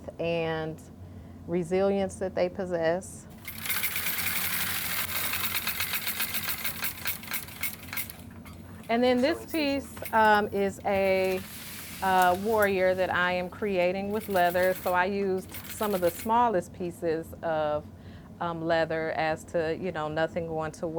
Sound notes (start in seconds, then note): 4.1 sowing machine whirring